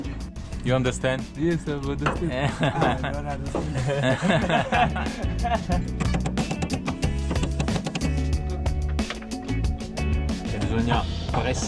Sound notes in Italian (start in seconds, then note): 2.3 Risate